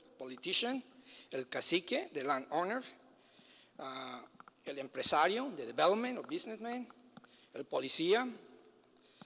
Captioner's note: foreign language